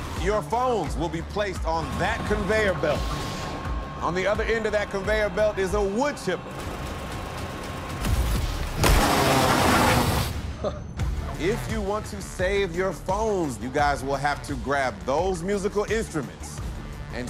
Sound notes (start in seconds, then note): 8.8 grinding; 10.7 laughs